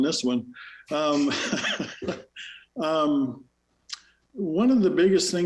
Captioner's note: laughs